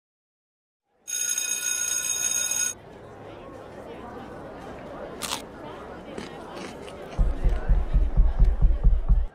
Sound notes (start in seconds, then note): 1.1 lunchtime bell; 5.2 munching noises